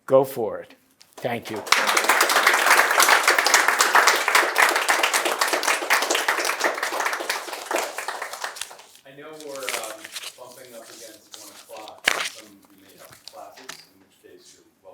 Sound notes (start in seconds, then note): 2.8 applause